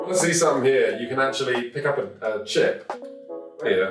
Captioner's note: none